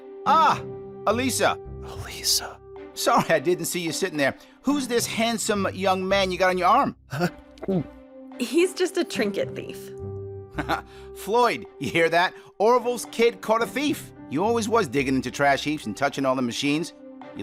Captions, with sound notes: Ah! Alisa! Alisa! Sorry I didn't see you sitting there! Who's this handsome young man you got on your arm? Heh. (Gulps) He's just a trinket thief. Floyd. Yah hear that? Orville's kid caught a thief. You always was digging into trash heaps and touchin' all them machines.